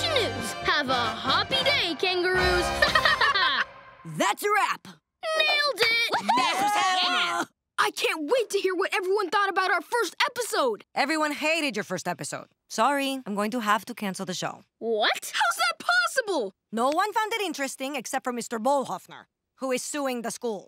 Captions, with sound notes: Have a hoppy day, kangaroos. [laughing] That's a wrap. Nailed it! [cheering] I can't wait to hear what everyone thought about our first episode. Everyone hated your first episode. Sorry. I'm going to have to cancel the show. - What? - How's that possible? No one found it interesting except for Mr. Bolhofner. Who is suing the school.